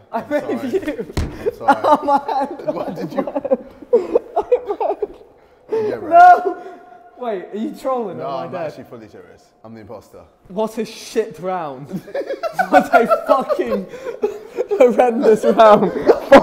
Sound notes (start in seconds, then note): 1.4 sobbing; 11.8 laughing